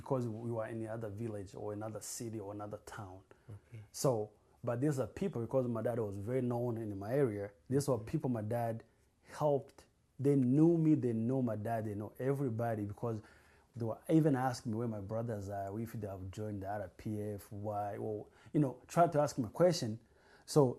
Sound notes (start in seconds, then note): none